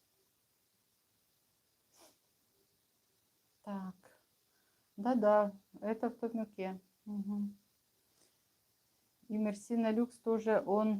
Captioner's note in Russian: фыркает